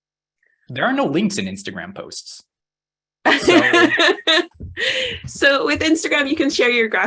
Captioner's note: laughs